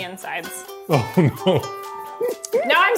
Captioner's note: laughs